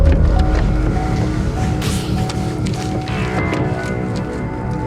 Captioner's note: car beeping